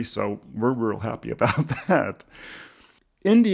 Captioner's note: chuckles